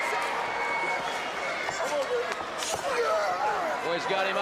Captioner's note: crowd cheering